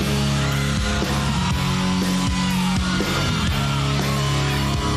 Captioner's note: crowd screaming